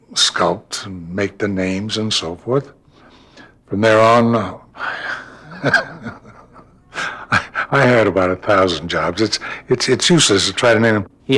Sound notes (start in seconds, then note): 4.7 laughing